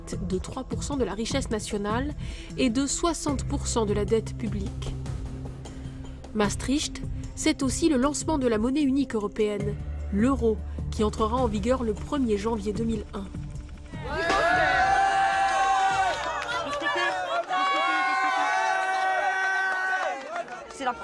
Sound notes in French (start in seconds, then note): 14.0 la foule crie de joie